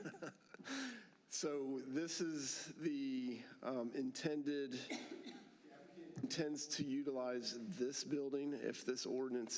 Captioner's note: laughter